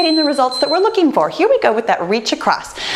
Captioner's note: timer beeping